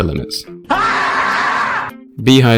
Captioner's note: scream